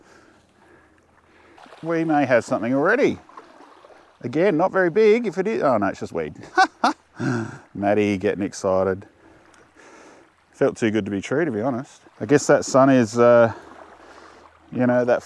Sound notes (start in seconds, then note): 7.2 chuckle